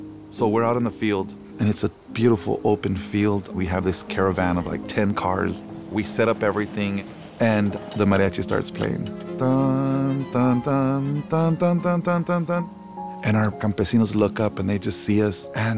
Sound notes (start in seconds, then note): 9.2 mimics a tune